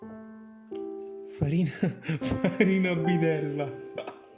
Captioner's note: laughing for an italian joke